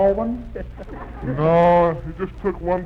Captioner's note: audience laughs